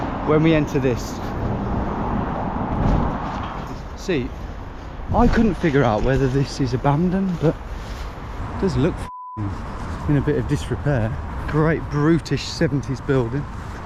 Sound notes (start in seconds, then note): 9.0 beep